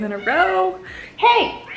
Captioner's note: cat meowing